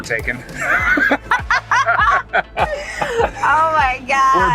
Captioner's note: laughs loudly